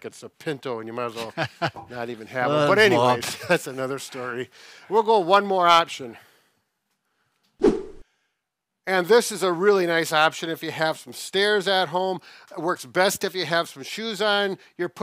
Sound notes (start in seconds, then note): 7.6 air whooshes